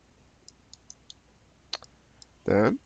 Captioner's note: mouse clicking